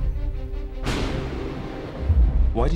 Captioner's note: thunder crashes